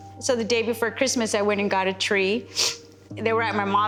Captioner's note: sniffles